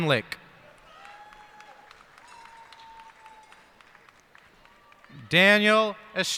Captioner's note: cheers and applause